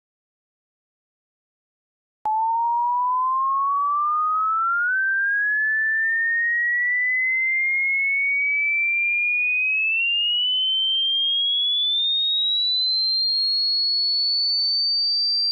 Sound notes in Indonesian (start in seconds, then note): 2.3 Tweeting a sound in certain frequency from low to high